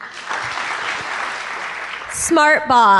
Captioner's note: applause